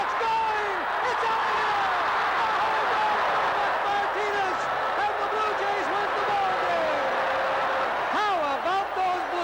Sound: cheers and Applause

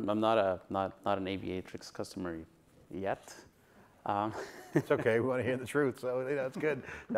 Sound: laughs

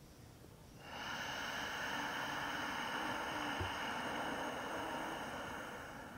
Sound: exhales, inhales, exhales

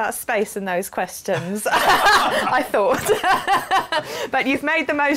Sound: laughs

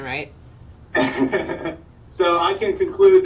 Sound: laughs

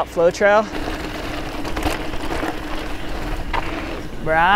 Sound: bike rattles

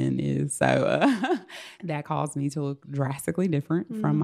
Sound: laughs

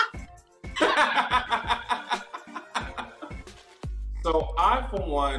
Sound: laughs

